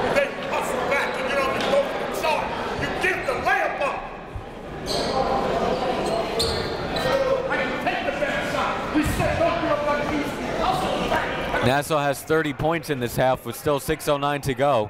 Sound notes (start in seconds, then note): 0.7 coaches yelling